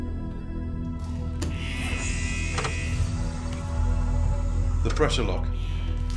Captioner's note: alarm wailing; air hissing